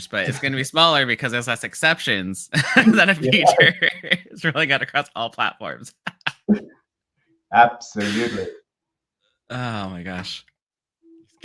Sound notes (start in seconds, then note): 6.9 laughs